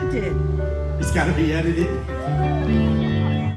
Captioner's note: laughs